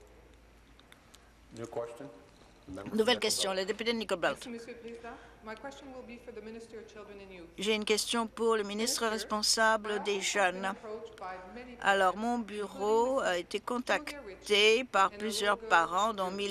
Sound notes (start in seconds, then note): 6.4 speaking in French